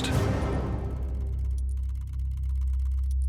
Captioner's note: clicking